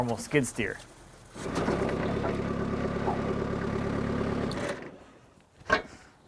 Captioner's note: skid steer engine roaring